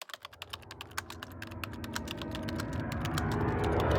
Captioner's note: typing